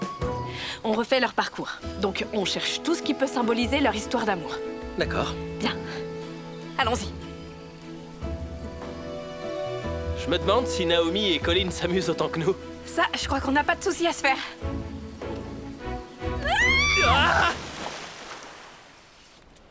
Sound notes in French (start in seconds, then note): 8.1 bruissement de feuilles; 16.4 éclaboussures